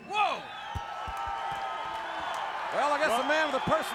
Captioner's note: crowd cheering